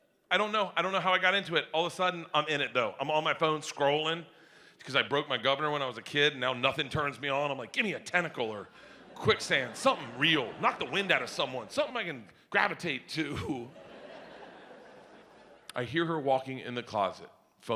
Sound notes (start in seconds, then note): 13.3 audience laughs